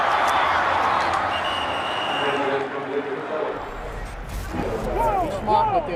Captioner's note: whistle blows